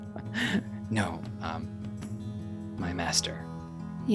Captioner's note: laughs